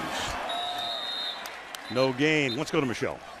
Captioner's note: whistle